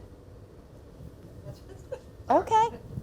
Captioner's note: laughing